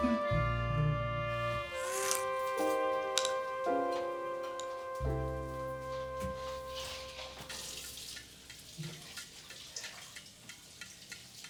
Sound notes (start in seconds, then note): 7.6 tap water trickling